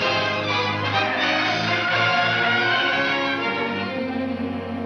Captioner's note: tires squealing